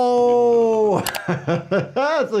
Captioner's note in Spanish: El actor secundario Bob gime; se ríe